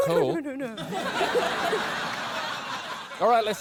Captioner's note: laughter